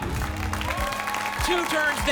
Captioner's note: applause and cheering